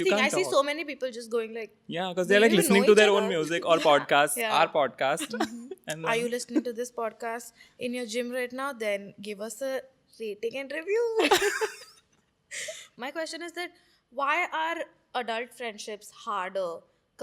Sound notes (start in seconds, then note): 5.1 laughing; 10.8 laughs; 11.2 laughing